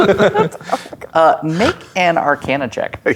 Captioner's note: players laughing; snorts